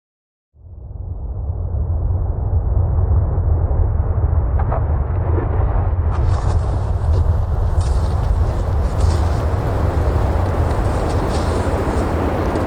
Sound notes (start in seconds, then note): 1.5 rumbling and whooshing; 8.0 snow crunching